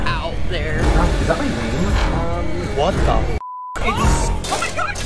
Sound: beep

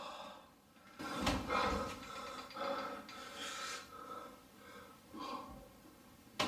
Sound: breathing heavily

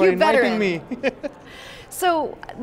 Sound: laughing

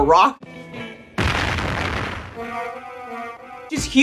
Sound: explosion sound

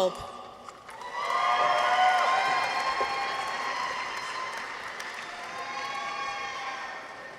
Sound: audience applauds; people cheer

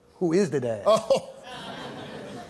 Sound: laughter

